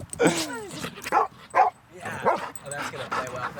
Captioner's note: Nala barks